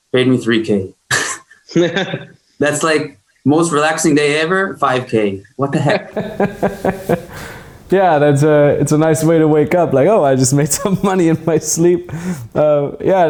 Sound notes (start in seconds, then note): 1.5 chuckles; 6.1 laughing; 10.2 chuckles